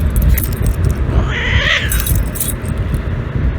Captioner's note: Caprice yowls at Ella